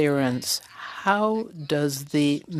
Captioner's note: speaking French